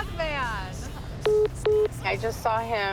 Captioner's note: phone message beeping